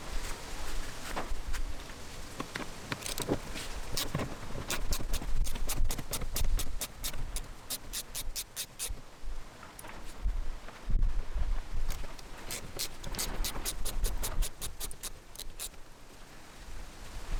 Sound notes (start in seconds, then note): 4.7 wrench clicks; 12.1 wrench clicks